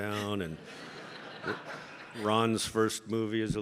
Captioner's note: audience laughing